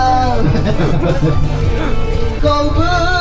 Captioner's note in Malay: penyanyi gelak